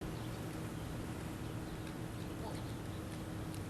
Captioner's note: birds singing